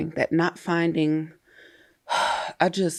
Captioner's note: sighs